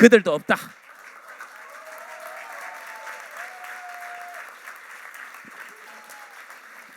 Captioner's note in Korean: 박수